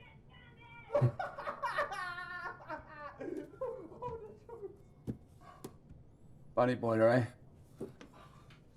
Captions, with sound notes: (Eloise ranting) (Tariq laughing) Bunny boiler, eh?